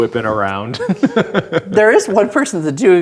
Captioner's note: laughing